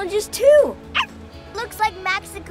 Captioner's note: dog barks